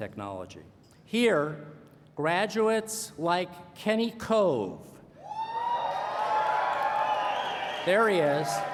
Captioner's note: cheering